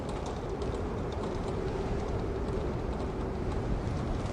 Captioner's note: the wind is blowing